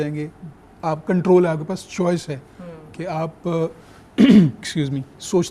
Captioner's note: clears throat